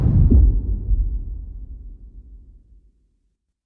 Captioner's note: dramatic sound